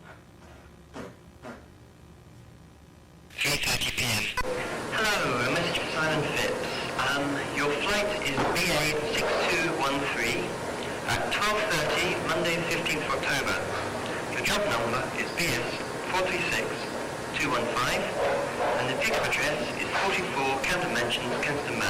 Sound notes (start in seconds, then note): 3.7 voiceover